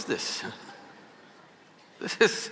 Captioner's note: laughs